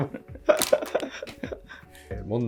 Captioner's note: laughing